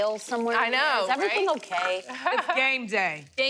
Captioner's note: laughs